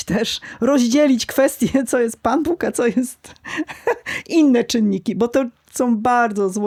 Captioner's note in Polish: śmiech